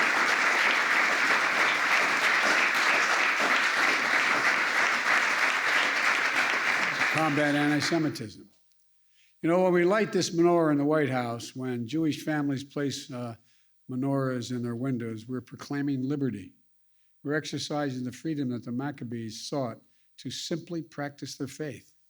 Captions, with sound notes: (applause) -- Combat Antisemitism. You know, when we light this menorah in the White House, when Jewish families place menorahs in their windows, we are proclaiming liberty. We're exercising the freedom that the Maccabees sought to simply practice their faith.